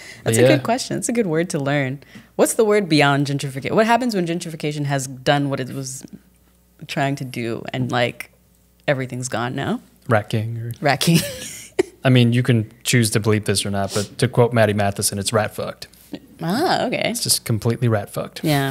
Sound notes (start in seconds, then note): 11.5 laughs